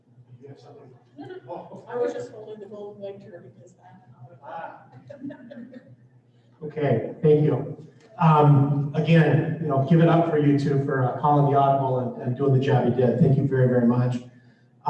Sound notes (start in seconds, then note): 5.1 laughter